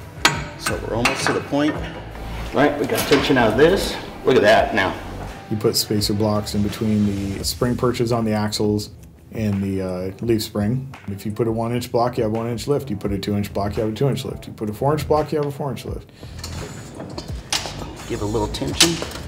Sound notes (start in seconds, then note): 0.0 metal clanging; 16.2 lift creaks as it raises